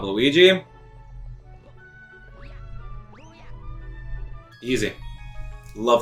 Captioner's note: gaming sounds; instrumental music